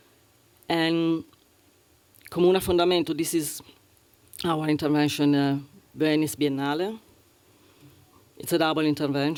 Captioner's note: italian